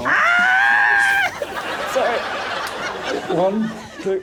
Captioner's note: screams